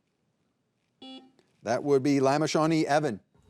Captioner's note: buzzer buzzing